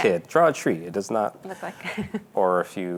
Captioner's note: laughs